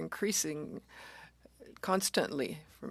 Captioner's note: speaking French